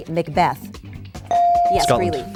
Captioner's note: bell dings